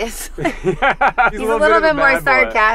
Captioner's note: laughing; laughs